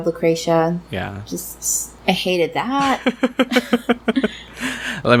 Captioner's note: laughs